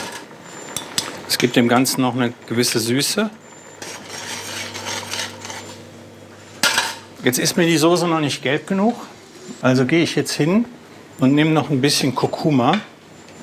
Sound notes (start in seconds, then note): 3.6 metallic stirring sound